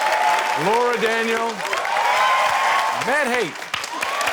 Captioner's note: cheering, applause